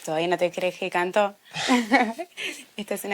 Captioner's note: laughing